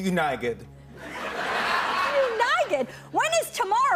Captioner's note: laughter